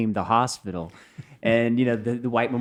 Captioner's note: laughing